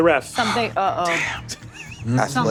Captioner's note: sighs